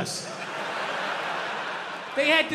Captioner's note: crowd laughs